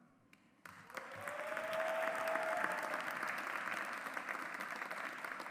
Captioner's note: audience applauds